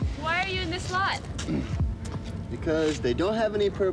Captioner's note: voiceover